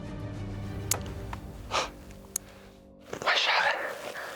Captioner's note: bowstring thuds